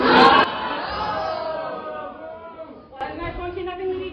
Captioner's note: everyone boos